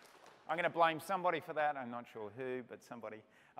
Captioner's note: applause